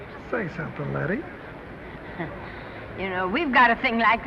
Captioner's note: Lettie chuckling awkwardly